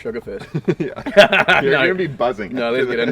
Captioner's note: both laugh